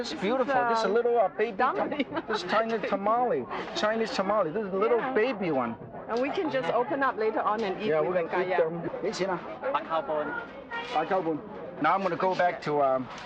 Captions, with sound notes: - Oh, this is beautiful. This is is a little, baby- - Dumpling - China tamale, Chinese tamale. This is a little baby one. - And we can just open up later on and eat with a (foreign language) - Now I'm going to go back to,